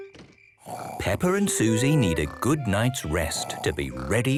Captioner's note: Peppa and Suzy snoring